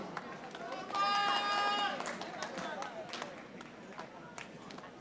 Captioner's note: audience applauding